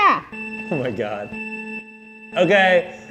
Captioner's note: countdown beeps